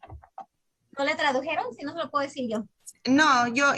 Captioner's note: speaking in Spanish